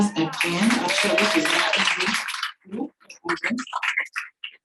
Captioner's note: audience applauding